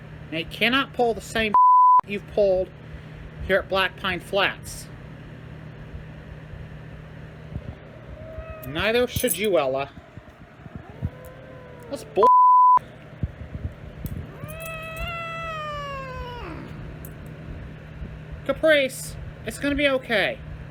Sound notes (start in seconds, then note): 9.9 Caprice yowls; 10.0 Caprice growls; 14.1 Caprice yowls in anger